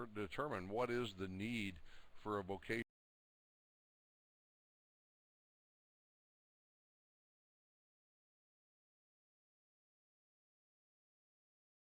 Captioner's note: audio drops